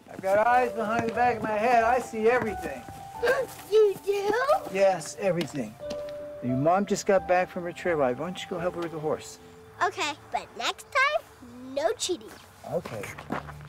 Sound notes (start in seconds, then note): 3.5 gasps